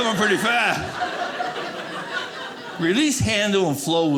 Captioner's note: audience laughing